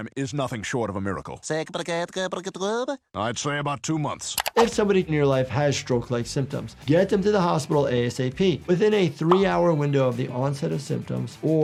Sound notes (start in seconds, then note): 1.7 Popeye stuttering